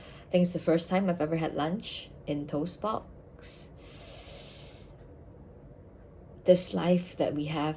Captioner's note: deep breath count: 7